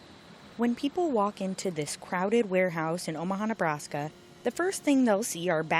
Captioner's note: voice-over